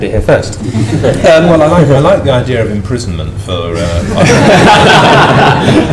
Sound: laughter

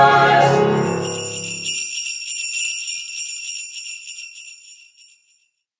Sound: sleigh bells

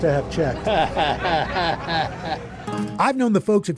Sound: chuckles

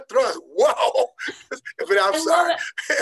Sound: laughing

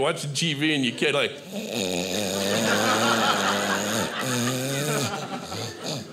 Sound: softly snoring

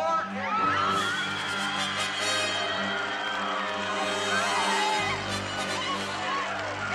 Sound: wild cheers!

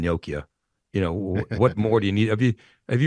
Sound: chuckling

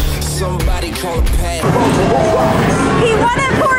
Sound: arcade sounds

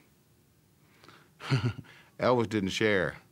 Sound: chuckles

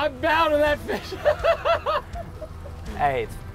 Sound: laughing

